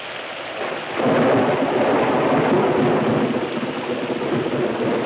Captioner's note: thunder claps